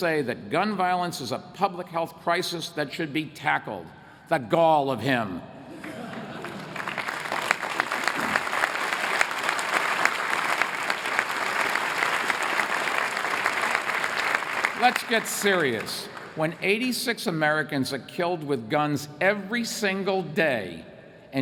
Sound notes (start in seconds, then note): 5.7 laughter; 7.4 applause